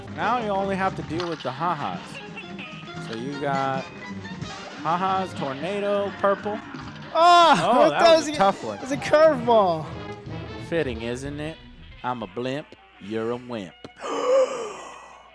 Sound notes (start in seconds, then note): 7.1 cry of despair; 14.0 gasp of surprise